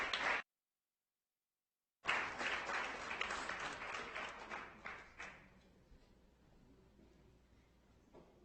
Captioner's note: audience applauding